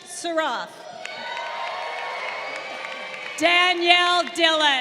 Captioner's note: crowd cheering